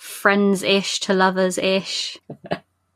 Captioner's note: laughs